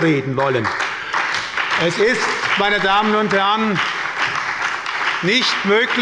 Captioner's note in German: Beifall bei der SPD und bei Abgeordneten der FDP